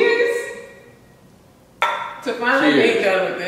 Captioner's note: clink